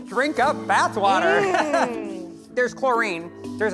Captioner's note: laughs